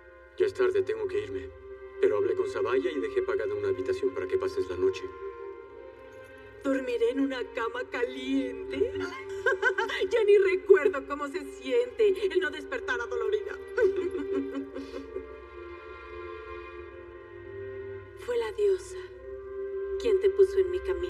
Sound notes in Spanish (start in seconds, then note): 13.4 Ríe